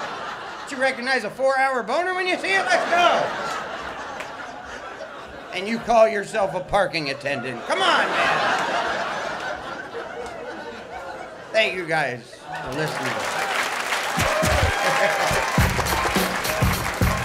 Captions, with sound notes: Don't you recognize a four hour boner when you see it, let's go! And you call yourself a parking attendant, come on man. Thank you guys for listening. [CHEERS AND APPLAUSE]